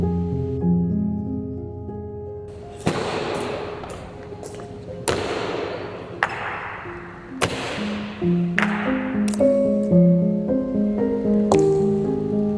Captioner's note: gun firing